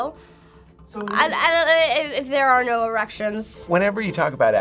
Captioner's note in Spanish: Tartamudez